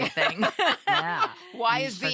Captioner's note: laughter